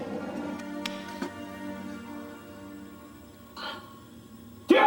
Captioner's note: hand slapping